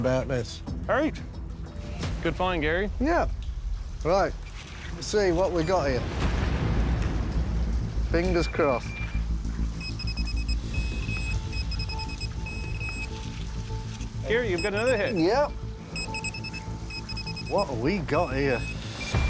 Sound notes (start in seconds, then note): 6.1 beeping; 9.7 beeping rapidly